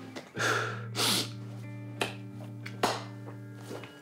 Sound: sighs

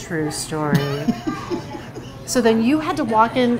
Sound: laughing

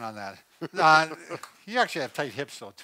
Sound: laughs

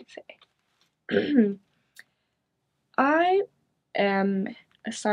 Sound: clears throat

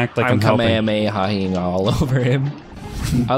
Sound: laughs; giggles

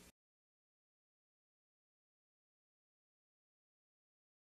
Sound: silence

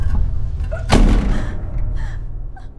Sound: gasping

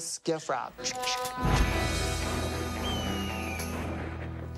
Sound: imitates gun cocking; eagle screeches

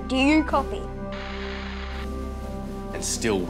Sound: radio buzzing

